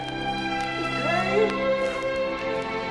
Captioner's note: sniffles